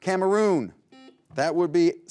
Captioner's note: buzzer beeps